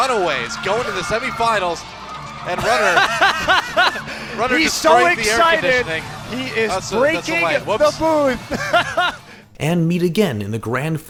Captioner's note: haha